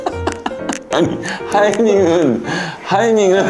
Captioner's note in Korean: 들숨